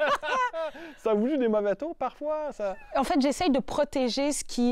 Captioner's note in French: rires